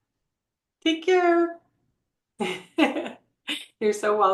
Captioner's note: laughs